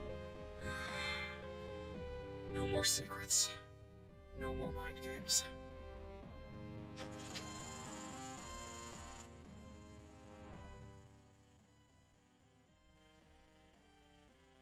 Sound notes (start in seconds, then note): 0.6 sighs; 7.0 film projector whirrs